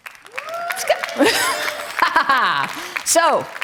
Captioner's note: laugh